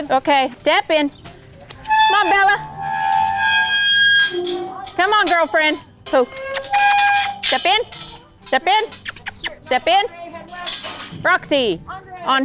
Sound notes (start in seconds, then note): 8.9 clucks